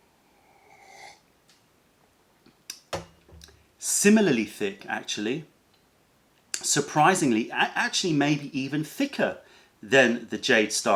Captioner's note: sips tea